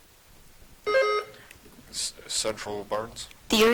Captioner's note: buzzer chiming